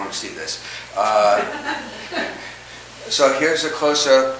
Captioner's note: audience chuckles